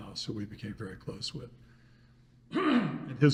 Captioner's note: throat clearing